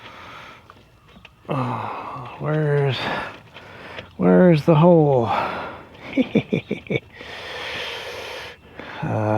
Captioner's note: tee hee